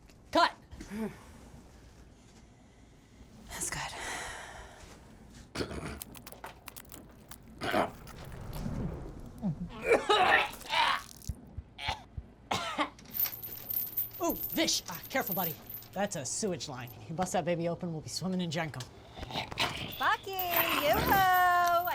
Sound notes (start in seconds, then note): 1.2 vivien sighs; 5.6 zombie walter gagging; 6.0 blood dripping; 9.7 bucky retching; 9.9 vomit splashing; 13.1 chain rattling